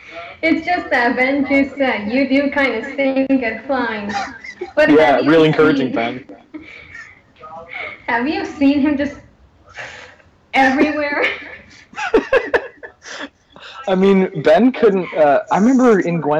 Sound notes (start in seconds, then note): 8.9 whooshing/flying sound; 11.9 laughter